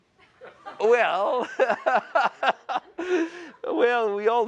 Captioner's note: chuckles